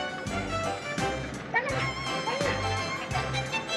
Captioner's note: whimpering